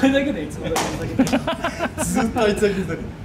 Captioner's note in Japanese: 笑い声